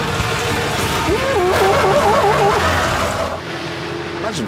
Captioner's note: richard yelps